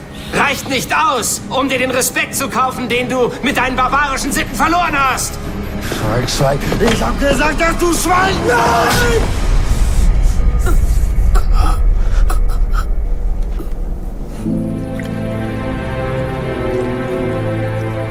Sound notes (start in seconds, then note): 10.6 both grumbling and gasping; 14.3 ominous music